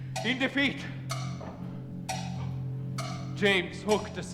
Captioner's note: clock ticking